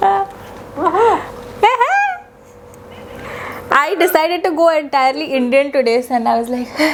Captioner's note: awkwardly wohoos back